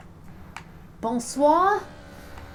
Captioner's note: french